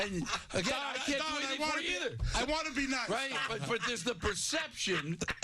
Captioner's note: laughing